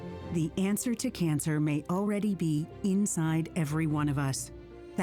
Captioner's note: voiceover